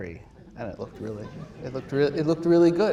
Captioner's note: audience laughs